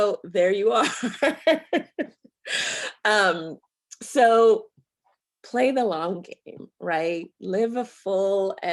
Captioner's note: chuckles